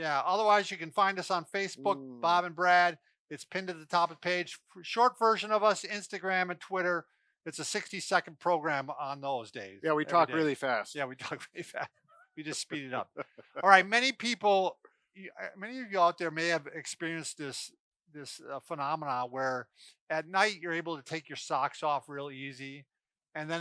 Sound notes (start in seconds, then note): 12.4 laughs